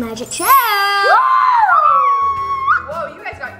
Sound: cheering

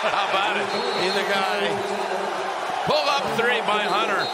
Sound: whistle

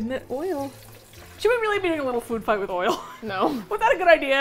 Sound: laughs

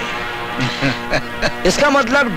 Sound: laughs

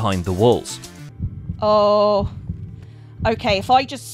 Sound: heartbeat

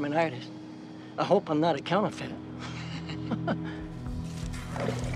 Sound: laughs

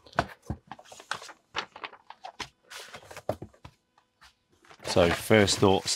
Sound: papers rustling

